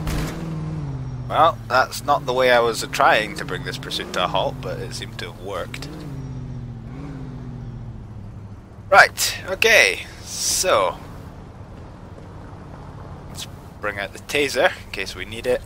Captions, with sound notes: [Crash] Well, that's not the way I was trying to bring this pursuit to a halt, but it seems to have worked! Right, okay, so... Let's bring out the tazer, in case we need